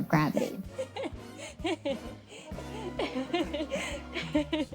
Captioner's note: laughing